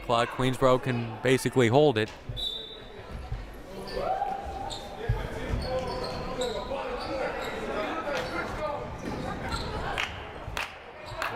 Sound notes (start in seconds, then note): 2.4 whistle blaring; 5.2 crowd murmuring